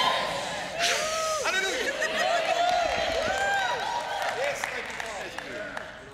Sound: congregation cheering and clapping

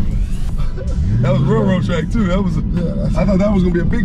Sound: chuckling

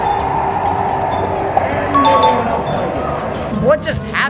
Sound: audience cheering

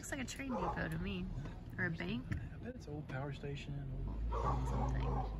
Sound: dogs barking

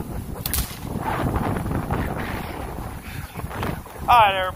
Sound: whip cracks

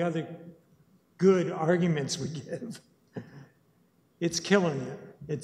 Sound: chuckles

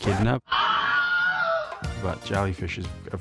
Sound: screams

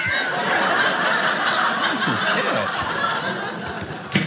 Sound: audience laughing

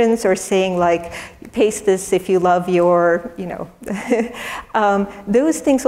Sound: laugh

